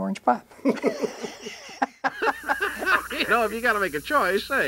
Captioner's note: interviewer laughing